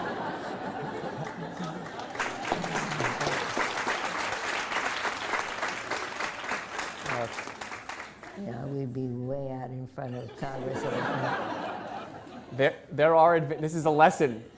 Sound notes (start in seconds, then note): 2.8 laughter; 4.0 applause